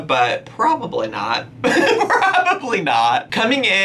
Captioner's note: laughing